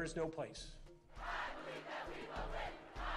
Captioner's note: crowd